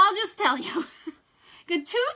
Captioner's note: laughs